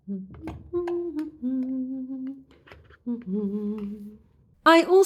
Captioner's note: humming